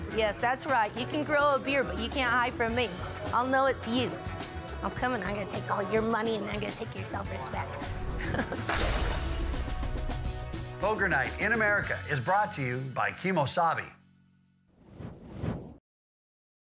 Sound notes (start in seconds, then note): 8.1 laughs